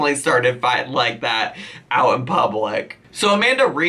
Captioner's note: none